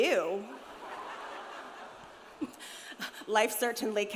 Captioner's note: audience laughs